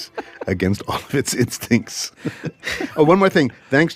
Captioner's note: laughs